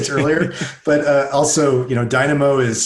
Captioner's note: laughing